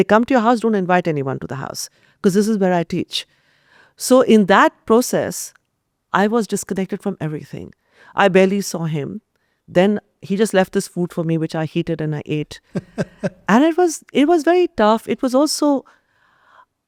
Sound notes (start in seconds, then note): 12.7 laughs